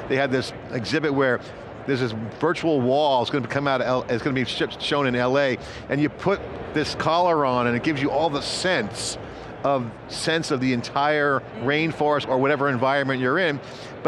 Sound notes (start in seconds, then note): none